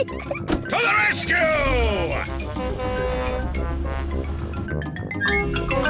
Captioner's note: horn blares